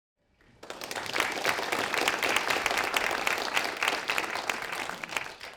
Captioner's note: audience clapping